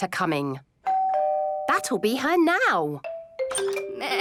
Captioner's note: doorbell rings